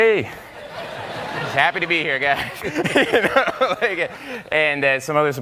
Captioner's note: audience laughing